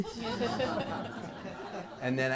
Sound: laughter

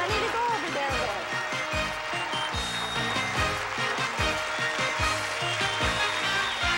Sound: audience applauding

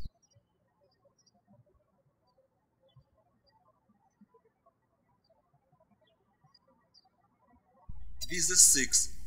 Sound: birds chirping

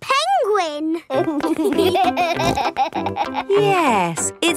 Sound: laughing

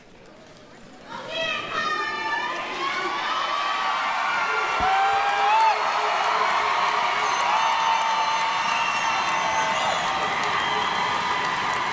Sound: applause, cheering

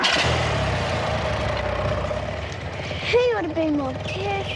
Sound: motorbike rumbling

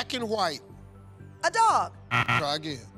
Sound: buzzer

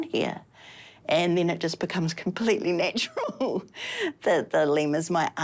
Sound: chuckles

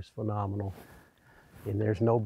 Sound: voiceover

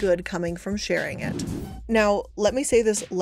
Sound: graphic whooshing

